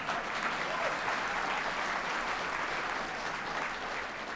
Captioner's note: audience applause